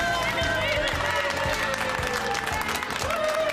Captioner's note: all cheering